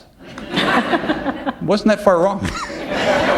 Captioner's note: laughter